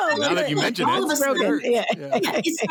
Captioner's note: laughter